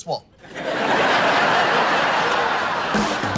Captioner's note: laughs